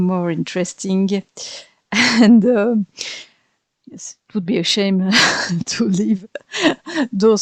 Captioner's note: laugh